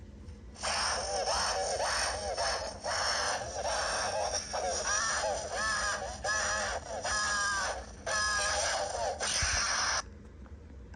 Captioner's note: horrifying, absolutely blood-curdling screaming